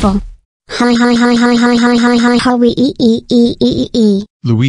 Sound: laughs

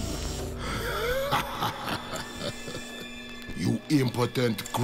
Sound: laughing

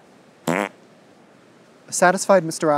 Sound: fart noise

